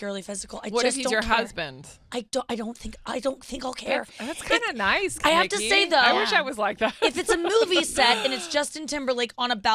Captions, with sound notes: I just don't care. >>: What if he's your husband? >>: I don't think I'll care. >>: That's kind of nice, Nikki. I wish I was like that. (laughs) >>: I have to say, though, if it's a movie set, and it's Justin Timberlake on a balcony,